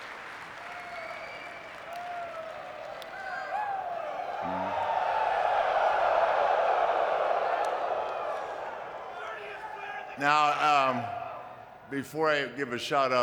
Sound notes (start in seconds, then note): 1.5 audience cheering